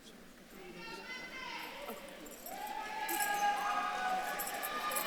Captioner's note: audience member shouting; audience cheering